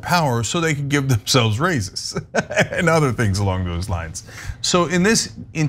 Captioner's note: laugh